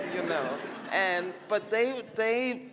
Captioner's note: laughter